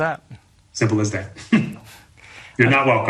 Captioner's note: chuckles